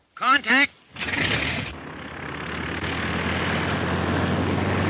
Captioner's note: engine sputters